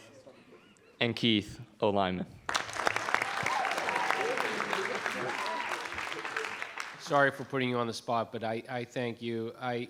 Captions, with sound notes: And Keith, O lineman. (audience applauding) - Sorry for putting you on the spot, but I thank you.